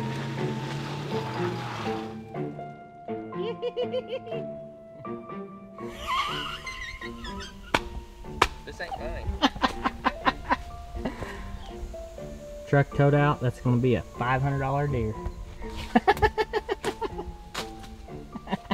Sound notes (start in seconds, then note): 5.8 laughter; 15.8 laughter